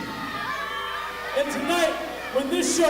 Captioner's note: crowd yells and boos